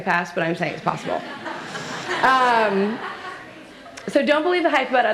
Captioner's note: laughter